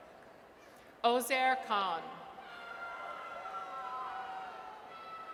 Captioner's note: audience cheers